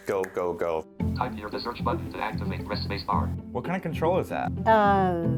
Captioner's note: computer voice